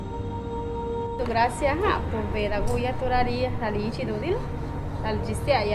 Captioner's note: woman speaking Zapotec